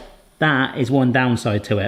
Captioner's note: brownie maker claps closed